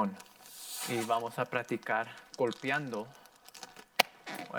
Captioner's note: plastic rustling; air whooshing; balloon squeaking